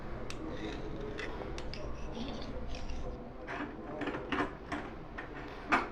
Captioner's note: scraping